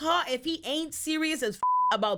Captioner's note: beep